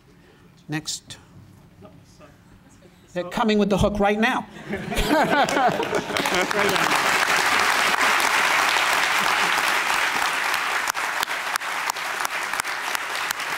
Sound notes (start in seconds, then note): 4.6 laughter; 5.2 applause